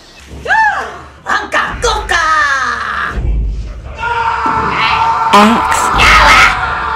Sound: male Scream is heard

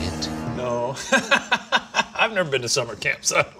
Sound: laughing

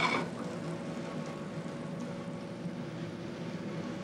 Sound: sizzling

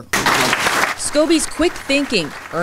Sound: clapping

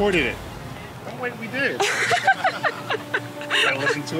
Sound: both laugh

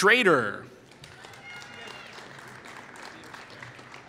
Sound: applause

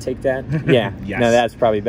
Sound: laughs

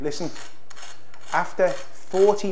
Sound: bread crackles

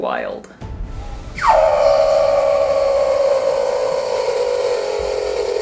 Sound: high-pitched seal vocalization; vocalization gets lower and slower

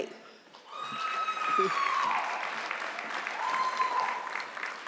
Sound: audience clapping

